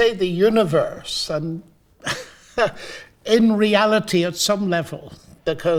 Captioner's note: laughing